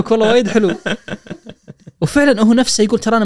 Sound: laughing

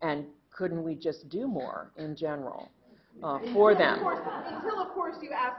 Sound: laughter

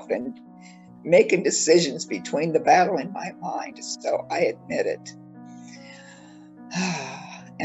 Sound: sigh

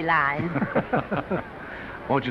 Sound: Danny and Announcer laugh

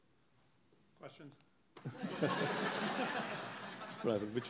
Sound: audience laughing

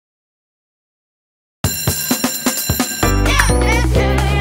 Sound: school bell ringing

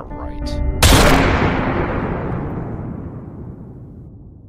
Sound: gun fires

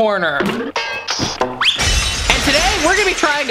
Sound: cartoon noises

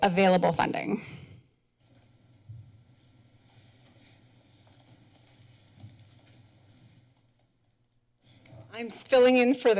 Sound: pause

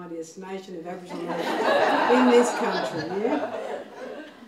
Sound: laughing

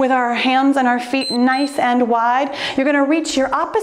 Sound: timer beeps

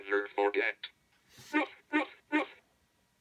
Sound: dog barking

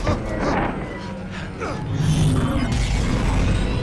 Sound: grunt

